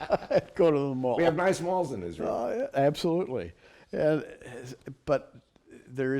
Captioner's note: laughter